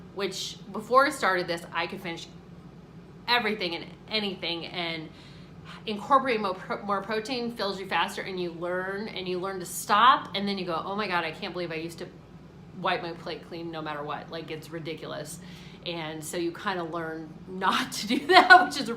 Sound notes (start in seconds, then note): none